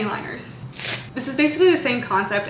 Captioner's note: plastic rustles